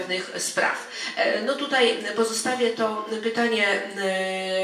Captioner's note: speaking in foreign language